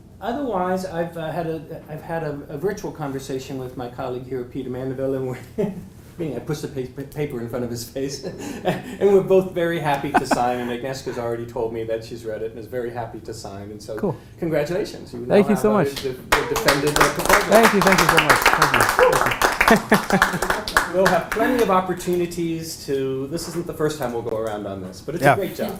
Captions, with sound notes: Otherwise I've had a ritual conversation with my colleague here, Peter Mandaville and we're, I pushed the paper in front of his face. And we're both very happy to sign and Agnieszka's already told me that she's read it and is very happy to sign so. >> Cool. >> Congratulations. >> Thank you so much. >> [APPLAUSE] >> Thank you, thank you so much. [LAUGH] >> You'll have plenty of opportunities to, this isn't the first time we'll go around on this, but it's a great job.